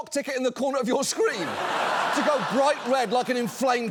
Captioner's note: studio audience laughs